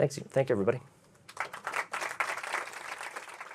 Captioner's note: applause